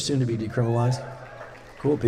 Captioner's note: cheers